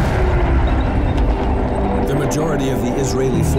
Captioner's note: suspenseful music; tanks rumbles